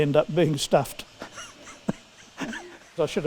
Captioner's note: laughing